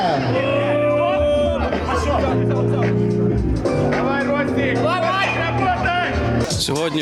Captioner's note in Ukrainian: вигуки вболівальників